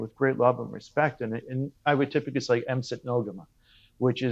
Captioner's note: speaking in Mi'kmaq